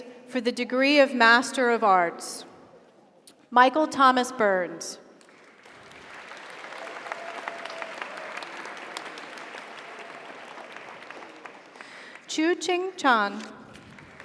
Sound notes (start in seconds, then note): 5.2 audience applauds; 6.1 audience cheers